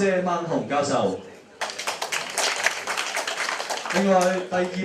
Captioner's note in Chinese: Applause; 掌聲